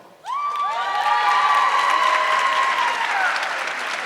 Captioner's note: audience cheering